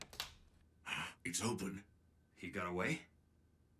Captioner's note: gasps